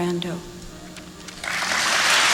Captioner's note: applause